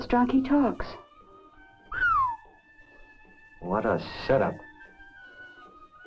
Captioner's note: whistles